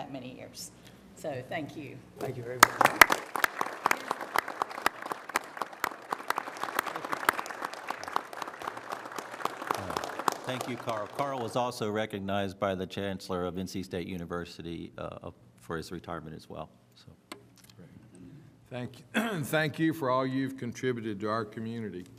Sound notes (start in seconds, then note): 7.3 applause